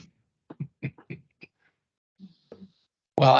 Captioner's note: laughing